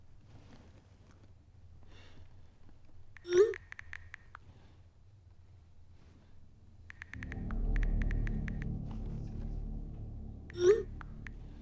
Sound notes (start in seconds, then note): 3.6 buttons clacking; 3.6 message whooshing; 8.3 tense ominous music